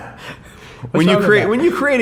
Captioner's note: man laughing